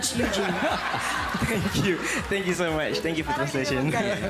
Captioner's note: laughter; laughs